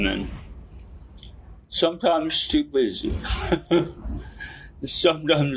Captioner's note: laughs